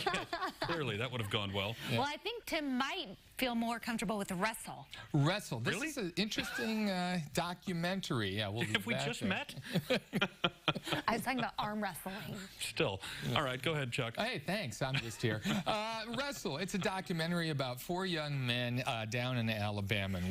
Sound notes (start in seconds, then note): 14.9 laughter